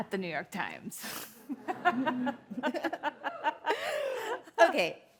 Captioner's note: laughs